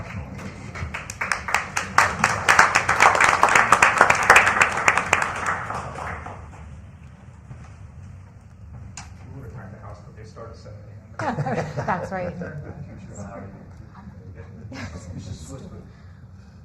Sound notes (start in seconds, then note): 2.5 applause